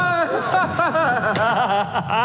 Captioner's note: echoing screams